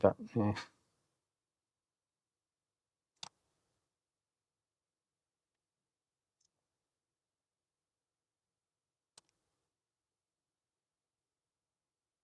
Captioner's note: silence